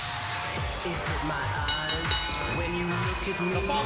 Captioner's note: bell ringing